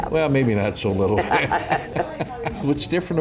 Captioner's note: laughs